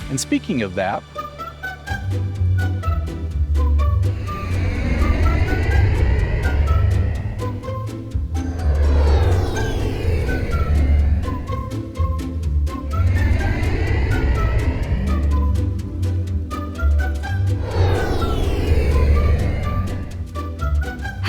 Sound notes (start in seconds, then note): 1.1 cheery plucky music; 5.9 airplane soaring